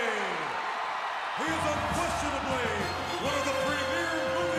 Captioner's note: crowd cheering